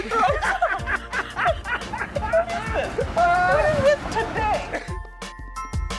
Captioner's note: laughs